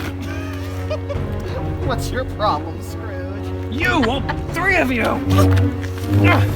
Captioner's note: chuckles